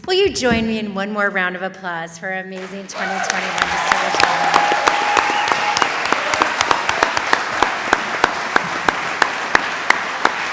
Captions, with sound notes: - Will you join me in one more round of applause for our amazing 2021 Distinguished Alumni? (audience applauds)